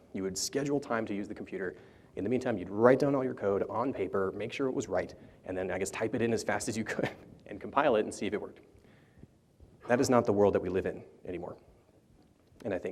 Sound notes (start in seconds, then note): 6.9 chuckles